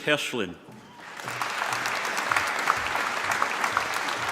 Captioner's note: applause